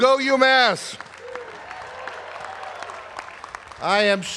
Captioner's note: applause